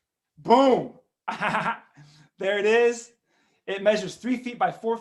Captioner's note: laughs